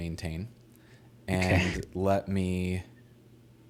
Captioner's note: laughing